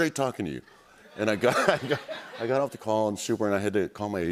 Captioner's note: laughter